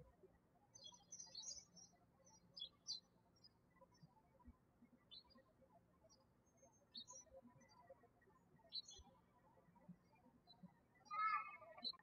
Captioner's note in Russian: птички щебечут